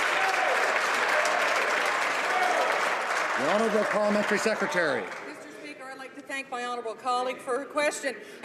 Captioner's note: applause